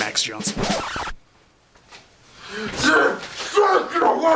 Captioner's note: record scratch